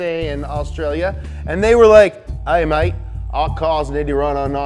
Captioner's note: Australian accent